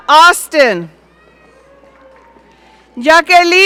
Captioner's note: audience cheering